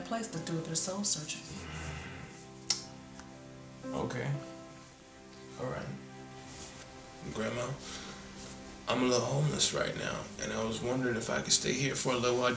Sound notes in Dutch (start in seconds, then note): 1.6 Drew ademt zwaar uit